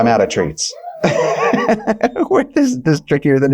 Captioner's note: chuckling